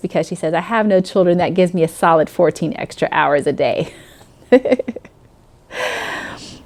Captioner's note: laughing